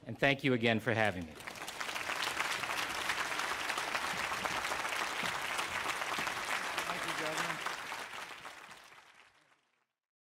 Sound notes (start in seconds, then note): 1.0 applause